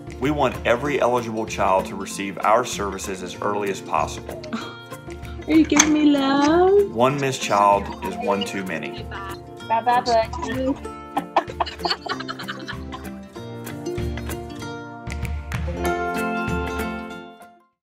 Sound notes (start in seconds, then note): 11.1 laughs